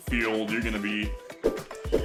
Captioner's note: swinging noises